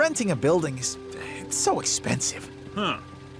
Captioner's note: sighs